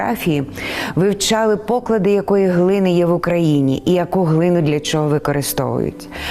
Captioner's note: speaking in foreign language